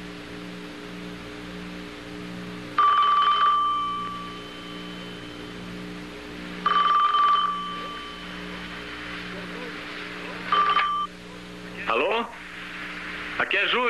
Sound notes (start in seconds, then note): 2.8 rings